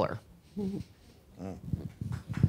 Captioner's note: person claps